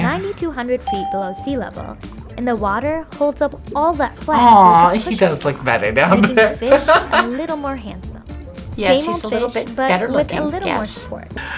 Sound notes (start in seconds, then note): 0.8 bell rings; 6.0 laughs